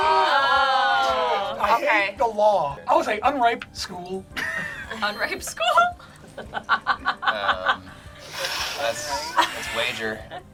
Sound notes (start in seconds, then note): 4.5 laughs; 6.1 word twinkles; 6.3 laugh